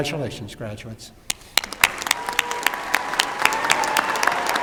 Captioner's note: applause and cheering